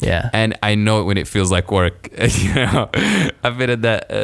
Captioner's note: laughs